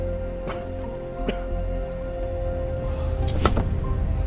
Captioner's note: Spencer coughs